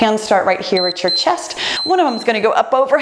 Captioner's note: timer beeps